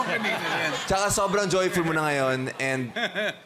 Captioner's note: fmg, eugene chuckle